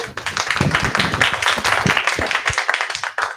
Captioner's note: applause